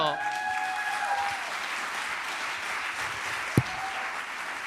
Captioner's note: applause